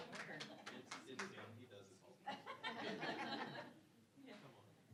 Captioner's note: applause; audience laughing